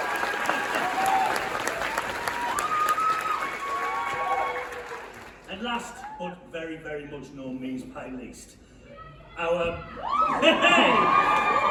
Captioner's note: loud woo and applause